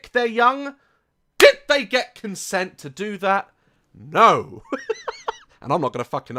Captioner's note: laughs